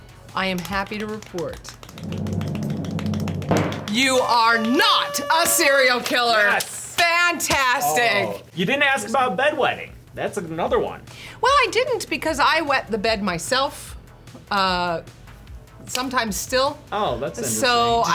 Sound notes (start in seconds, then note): 0.6 drum roll; 4.1 party horns blow